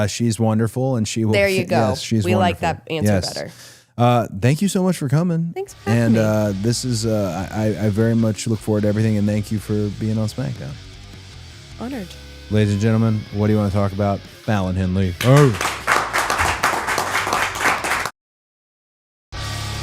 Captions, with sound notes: She's wonderful and she will. There you go. She's wonderful. We like that answer better. Yes. Thank you so much for coming. Thanks for having me. And this is, I very much look forward to everything and thank you for being on SmackDown. Honored. Ladies and gentlemen, "What Do You Wanna Talk About," Fallon Henley (audience applauds)